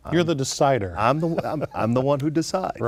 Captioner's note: laughing